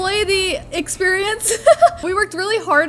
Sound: laughs

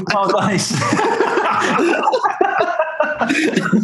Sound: laughing

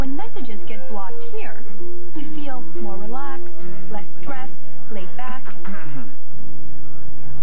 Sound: throat clearing

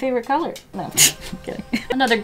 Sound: laughs

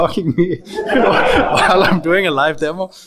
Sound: audience laughs

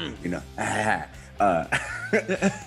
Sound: laugh

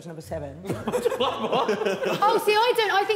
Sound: Sidemen laughing

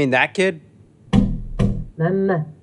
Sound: bangs glass from inside

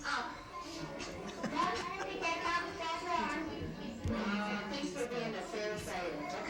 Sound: laughter

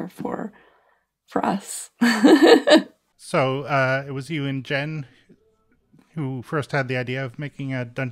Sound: laughs

